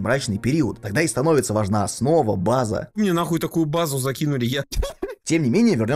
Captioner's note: laughter